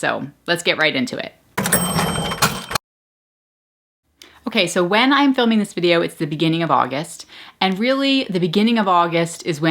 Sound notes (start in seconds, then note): 1.6 cash register dings